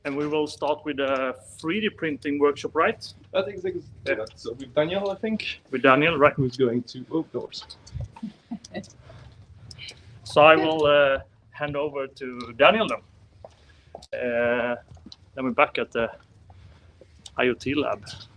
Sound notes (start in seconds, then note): 8.2 laughing